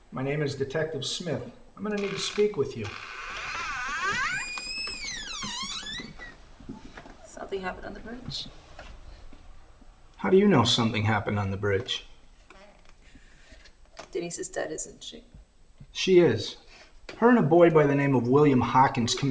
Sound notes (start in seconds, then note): 3.4 door creaking